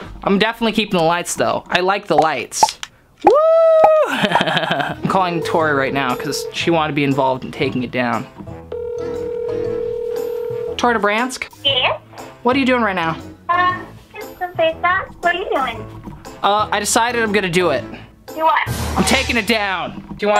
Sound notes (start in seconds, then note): 4.0 laughs; 8.7 phone ringing